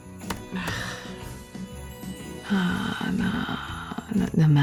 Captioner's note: typing resumes; typing